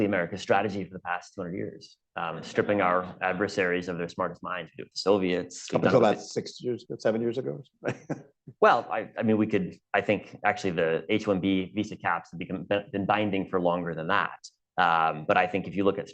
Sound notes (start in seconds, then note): 7.8 laughs